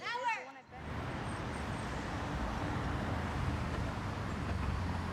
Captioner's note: wind blowing